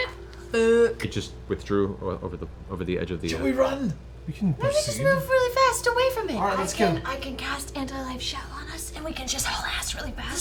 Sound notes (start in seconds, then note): none